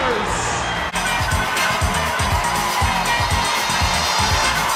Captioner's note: crowd cheering; upbeat music